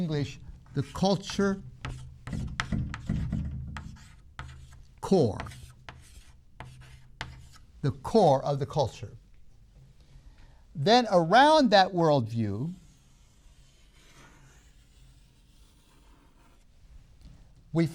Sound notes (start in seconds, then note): 14.7 chalk sounds